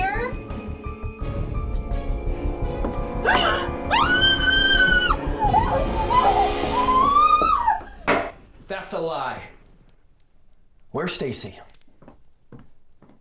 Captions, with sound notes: (Brenda gasps) (Brenda screams) Oh, oh my God. (screams) - That's a lie. Where's Stacey?